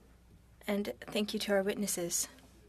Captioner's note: speaking French